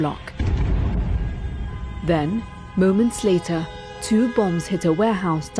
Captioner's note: explosion